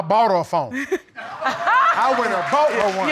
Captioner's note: laughs; battle laughs; audience cheering